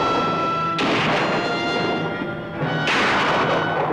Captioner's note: guns firing